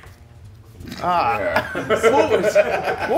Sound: laugh

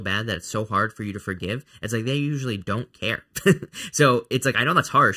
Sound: chuckling

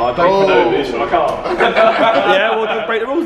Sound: laughing

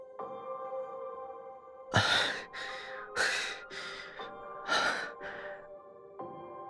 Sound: huffs

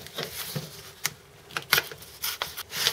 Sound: tearing sounds

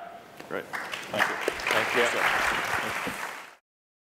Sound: applause

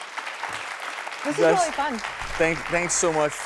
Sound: audience applauds

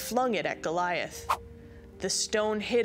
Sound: slingshot swooshing

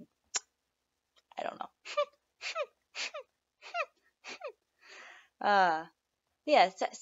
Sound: sniff tic

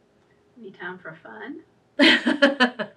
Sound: laughs

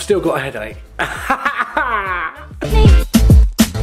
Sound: fake crying; upbeat electronic music

